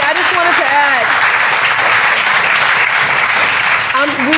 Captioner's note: applause